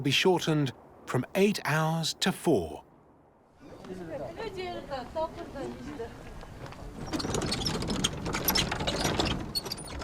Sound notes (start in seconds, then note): 4.9 speaking Tibetan